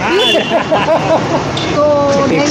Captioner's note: laughing